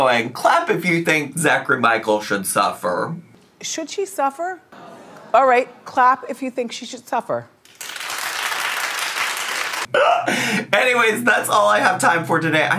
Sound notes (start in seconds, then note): 7.6 audience clapping